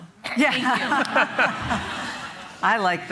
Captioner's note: laughter